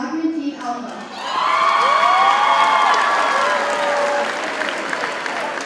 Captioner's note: audience cheers and applauds